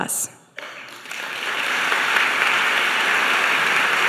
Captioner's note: audience applauding